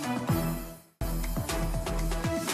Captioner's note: applause